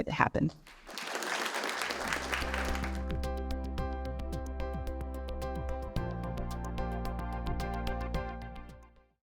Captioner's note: applause, Music